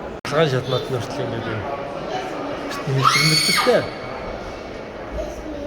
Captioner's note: scream